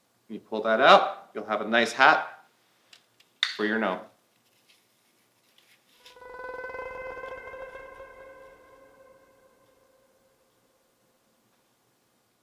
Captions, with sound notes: When you pull that out you'll have a nice hat for your gnome. [Strange high-pitched sound]